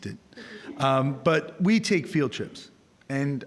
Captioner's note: audience chuckling